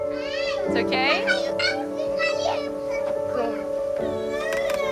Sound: child babbling

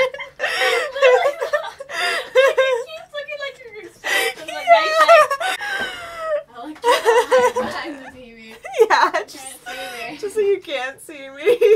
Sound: laughs; can't stop laughing

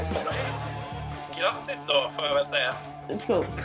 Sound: speaking Swedish

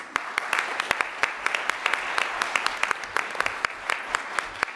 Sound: audience clapping

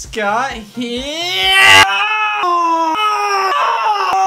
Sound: scream

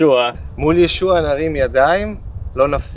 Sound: speaking Hebrew

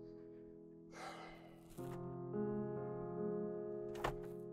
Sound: sighs

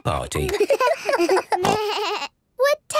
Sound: giggles, snorts

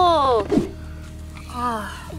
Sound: air whooshing

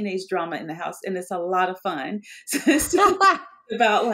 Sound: both laughing

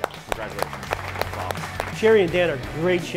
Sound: chefs clapping

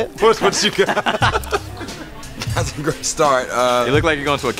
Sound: laugh

